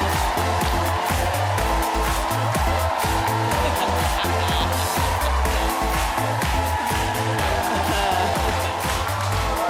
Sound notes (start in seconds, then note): 0.0 audience applauding and cheering; 0.3 techno music; 2.9 audience cheering; 3.4 laughing